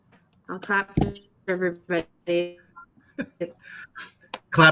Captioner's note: muffled clapping; audio distorting; chuckling